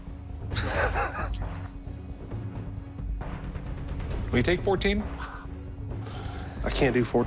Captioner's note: laughs